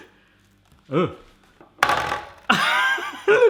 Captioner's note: laughs